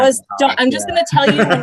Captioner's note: laughter